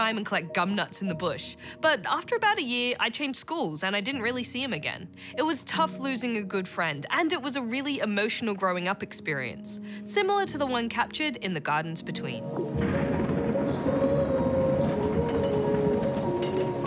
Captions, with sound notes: and collect gumnuts in the bush. But, after about a year, I changed schools and I didn't really see him again. It was tough losing a good friend, and it was a really emotional growing-up experience - similar to the one captured in The Gardens Between. (THUNDER RUMBLES) (MELANCHOLY MUSIC PLAYS)